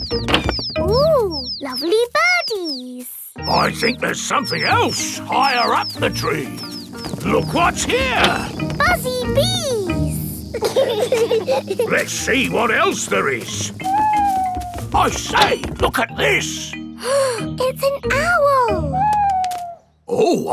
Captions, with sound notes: Ooh, lovely birdies! I think there's something else higher up the tree. Look what's here! Buzzy bees! (BEES BUZZING) Let's see what else there is. (OWL HOOTING) I say, look at this! (GASPS) It's an owl!